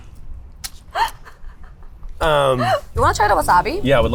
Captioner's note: laughing